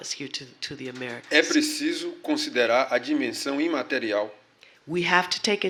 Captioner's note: speaking portuguese